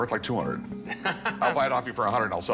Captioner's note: chuckles